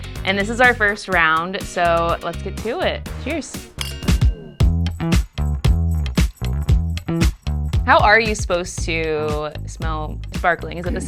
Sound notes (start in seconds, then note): 3.8 glasses tinkling; 5.2 upbeat music